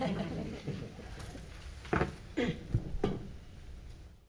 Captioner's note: everyone chuckling